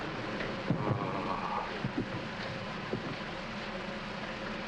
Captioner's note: steam hissing; man groans